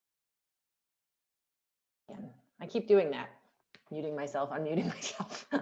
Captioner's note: laughter